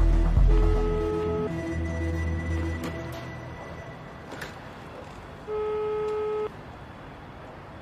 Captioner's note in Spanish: Tono de llamada